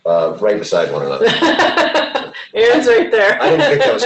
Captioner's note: laughs